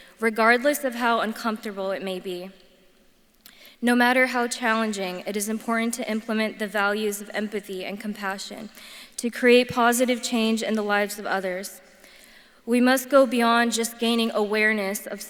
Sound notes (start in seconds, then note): none